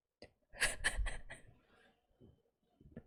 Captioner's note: laughs